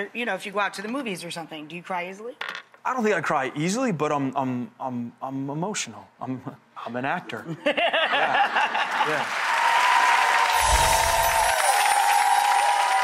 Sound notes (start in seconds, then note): 7.5 laughing; 8.5 audience cheering and clapping